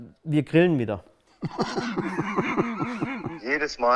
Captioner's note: Unterdrücktes Lachen